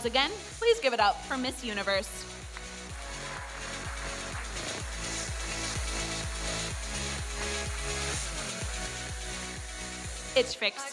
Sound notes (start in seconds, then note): 2.5 audience applauding; 6.6 electronic dance music